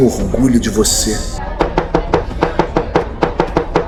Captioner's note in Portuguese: martelada